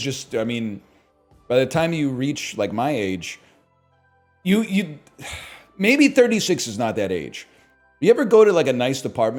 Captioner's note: sighs